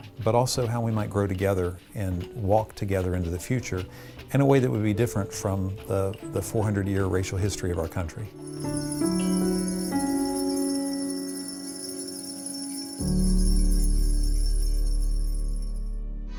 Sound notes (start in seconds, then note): 8.4 bell rings; 8.5 somber music